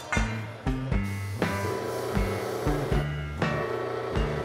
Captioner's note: machine humming